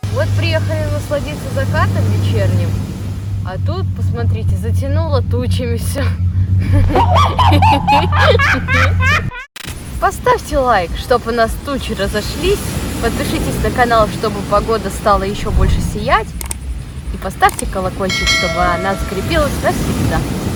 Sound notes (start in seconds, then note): 6.7 laughter